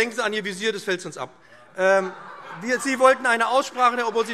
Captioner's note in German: Heiterkeit